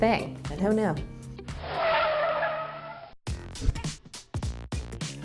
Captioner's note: tires squealing